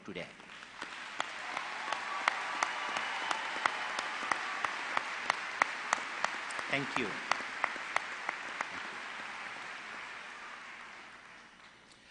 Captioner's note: applause